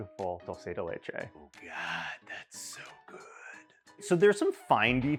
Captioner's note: voiceover